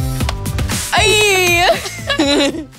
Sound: laughing

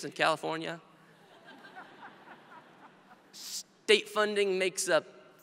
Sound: audience laughs

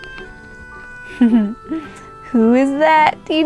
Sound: giggles

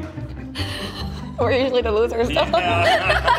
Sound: laughs

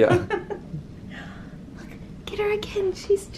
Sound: laughs

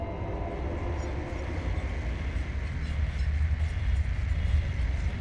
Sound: radio static crackles

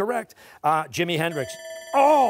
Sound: bell dings

